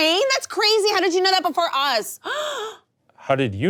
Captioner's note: gasps